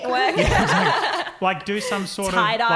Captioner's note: laughing